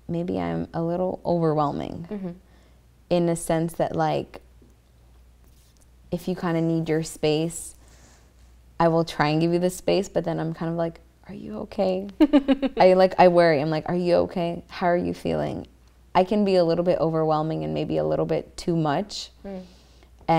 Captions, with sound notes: Maybe I'm a little overwhelming, in a sense that like if you kinda need your space, I will try and give you the space, but then I'm kinda like Are you okay? - (giggles) I like I worry. I'm like are you okay? How are you feeling? I can be a little bit overwhelming and maybe a little bit too much,